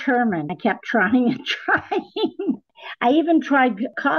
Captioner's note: ha ha